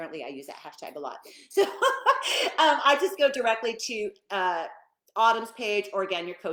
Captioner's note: laughing